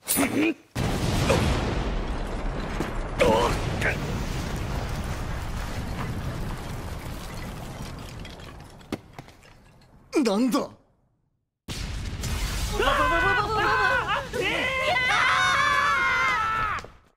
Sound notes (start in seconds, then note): 0.7 sounds of shelling